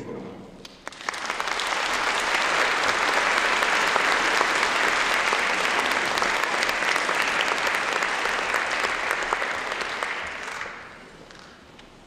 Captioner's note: applause